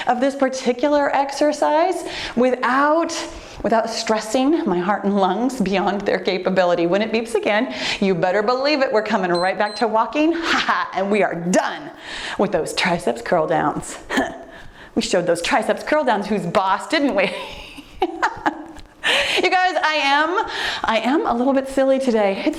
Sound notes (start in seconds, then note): 9.3 timer beeps; 10.9 laughs; 14.2 scoffs; 17.2 laughs